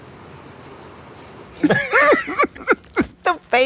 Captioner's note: chuckles